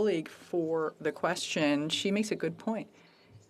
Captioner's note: speaking FRENCH